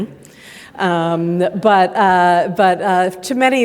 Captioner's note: audience laughing